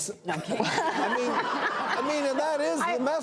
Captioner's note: laughter